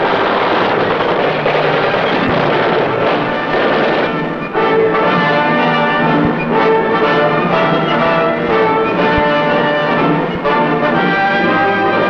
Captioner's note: war sounds